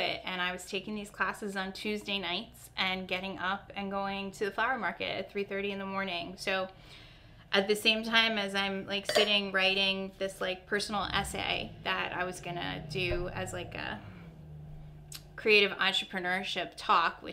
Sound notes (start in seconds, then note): none